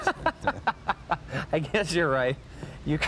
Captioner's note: laughing